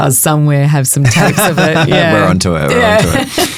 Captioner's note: chuckling; chuckles